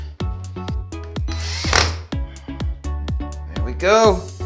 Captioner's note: drill whining